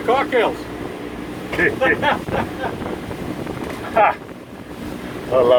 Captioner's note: laughter